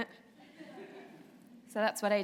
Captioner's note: laughter